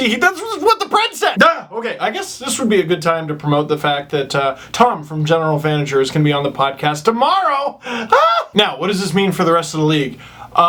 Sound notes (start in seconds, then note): 0.1 mumbles; 8.1 ahhh!